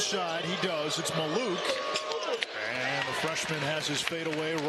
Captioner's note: cheering